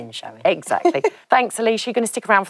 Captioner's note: laughs